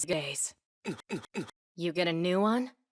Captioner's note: grunt x3